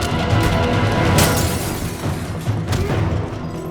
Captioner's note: punching sound; suspenseful music; glass breaking sound; fighters grunting; suspenseful music